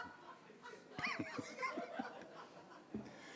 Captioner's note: audience laughing; everyone laughing